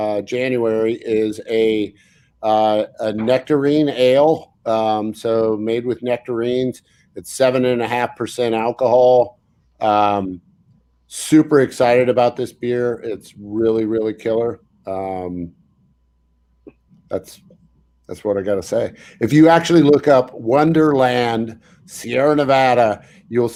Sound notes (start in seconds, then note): none